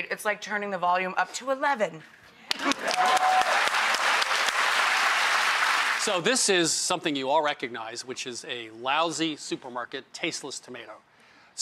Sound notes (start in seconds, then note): 2.5 clapping